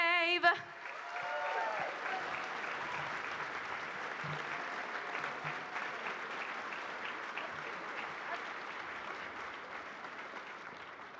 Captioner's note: applause and cheering